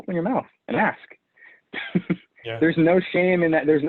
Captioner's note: chuckles